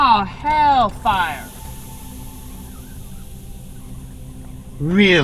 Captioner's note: steam hissing